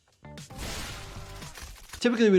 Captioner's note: explosion booms wetly